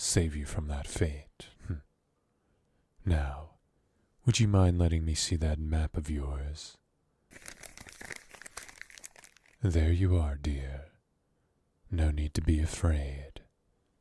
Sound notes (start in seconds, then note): 7.3 paper noises